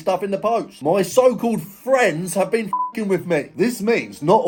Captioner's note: beep